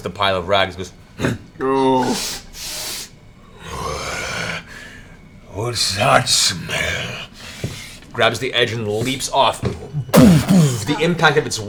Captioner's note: grunts and sniffs